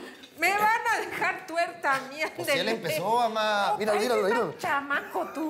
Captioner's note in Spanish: risas